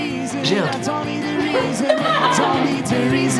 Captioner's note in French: Rires